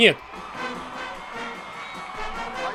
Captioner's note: crowd cheering